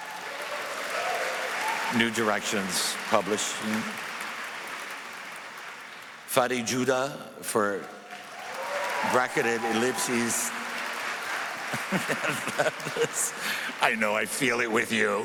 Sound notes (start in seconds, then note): 13.8 applause